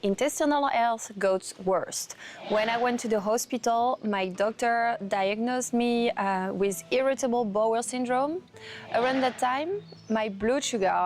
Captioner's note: voiceover